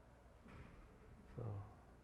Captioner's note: none